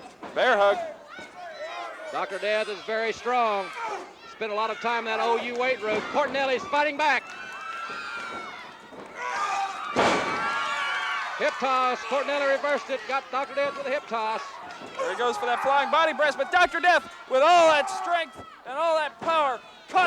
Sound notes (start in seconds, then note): 9.6 audience cheering